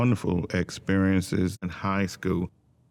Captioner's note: quietly